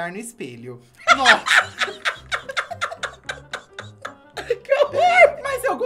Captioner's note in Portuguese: risos